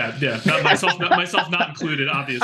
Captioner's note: laughing